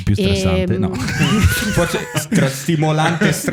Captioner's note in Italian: laughter